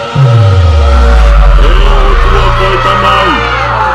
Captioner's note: non-english speech